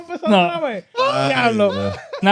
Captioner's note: speaking In German